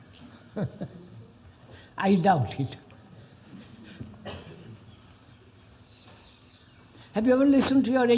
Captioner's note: laughs